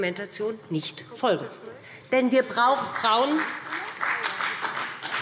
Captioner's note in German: Beifall BÜNDNIS 90/DIE GRÜNEN und vereinzelt CDU